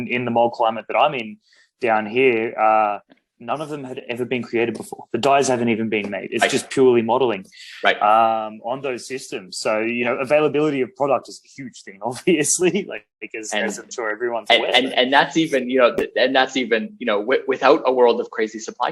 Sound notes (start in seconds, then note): 12.8 laughs